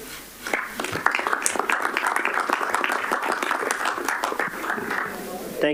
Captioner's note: applause